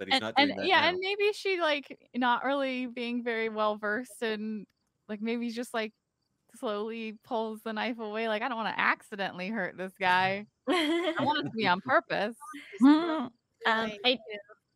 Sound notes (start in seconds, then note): 10.7 laughing